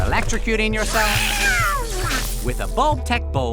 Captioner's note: electric sounds